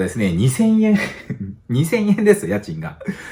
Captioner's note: laughs